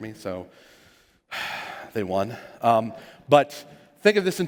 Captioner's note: sigh